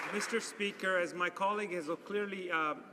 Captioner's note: some Applause